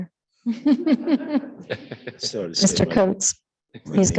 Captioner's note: attendees laughing